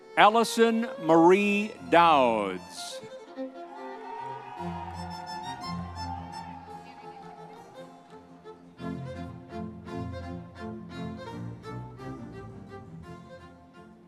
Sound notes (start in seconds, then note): 3.5 audience members cheering; 7.7 classical orchestral music continues